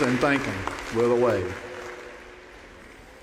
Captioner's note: applause